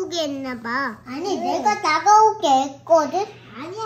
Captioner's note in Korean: ㅋㅋㅋㅋㅋㅋㅋㅋㅋㅋ